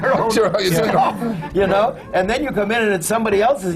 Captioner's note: laughs